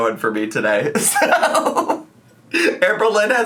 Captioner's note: laughs